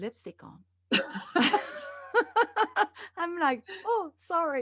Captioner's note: both laughing